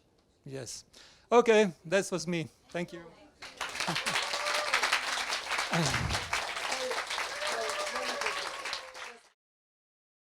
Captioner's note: audience applauds